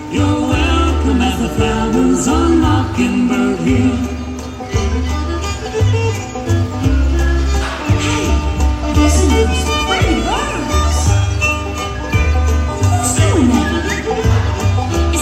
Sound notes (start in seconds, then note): 4.7 violin and bird tweeting; 7.9 speaking